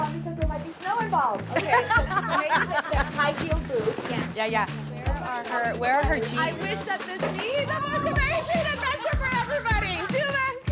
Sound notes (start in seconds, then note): 1.4 group chattering; 1.5 group laughs